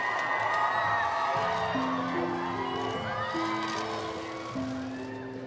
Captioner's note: crowds cheering and applauding